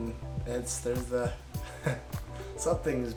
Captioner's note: chuckles